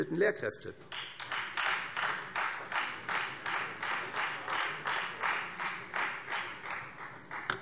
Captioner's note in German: Beifall Freie Demokraten